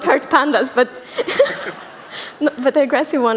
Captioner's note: laughter